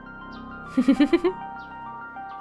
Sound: chuckles

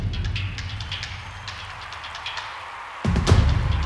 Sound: percussive drumming; cheering and clapping; inspiring music

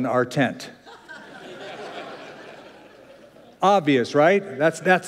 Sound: laughter

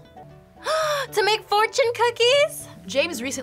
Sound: gasps

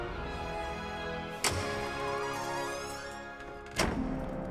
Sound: epic music; door creaking

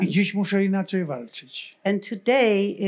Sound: foreign language

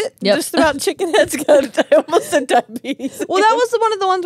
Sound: laughs

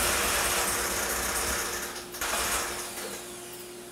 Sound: none

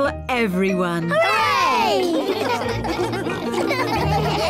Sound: all laugh

